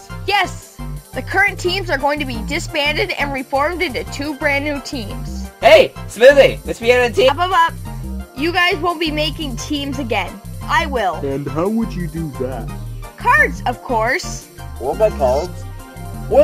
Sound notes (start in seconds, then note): none